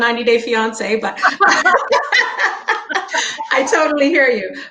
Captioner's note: laughing